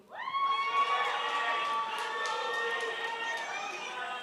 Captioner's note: crowd applauds